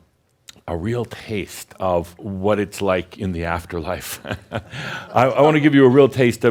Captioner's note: chuckles